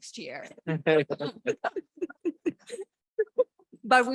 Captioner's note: laughing